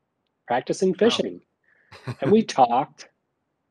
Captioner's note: chuckles